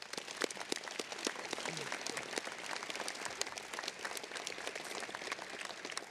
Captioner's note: applause